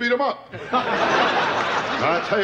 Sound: audience laughter

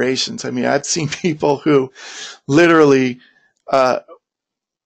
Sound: laughs

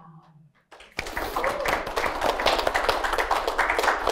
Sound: applause

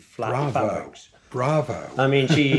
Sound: chuckling

